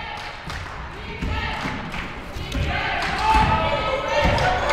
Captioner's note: cheering